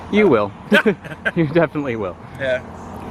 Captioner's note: laughing